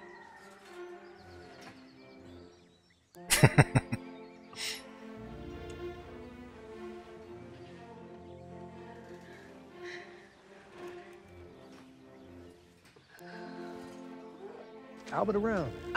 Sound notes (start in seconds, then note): 3.2 chuckling